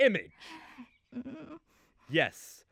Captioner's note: etta whimpers